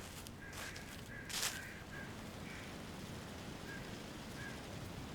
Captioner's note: leaves rustling; crows cawing